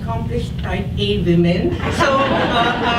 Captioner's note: audience laughs